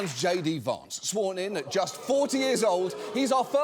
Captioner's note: studio audience booing